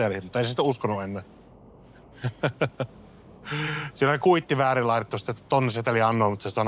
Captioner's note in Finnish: naurua